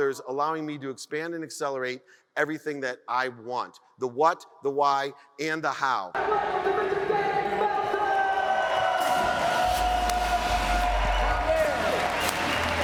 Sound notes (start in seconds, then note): 9.1 audience cheers and applauds